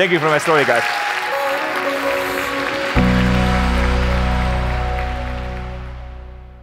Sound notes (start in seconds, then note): 1.1 audience laughs; 1.4 light upbeat music